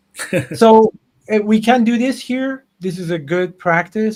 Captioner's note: laughs